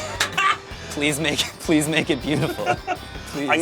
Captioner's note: laughs; laughs